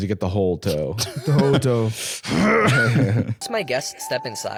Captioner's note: growls